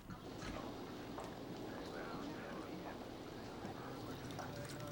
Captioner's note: people chattering